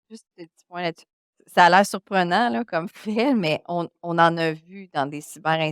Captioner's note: continues speaking French; speaking French